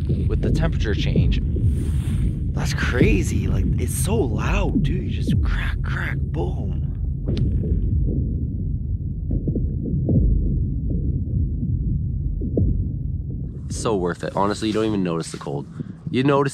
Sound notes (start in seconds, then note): 6.8 cracking sounds